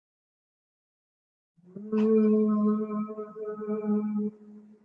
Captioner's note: humming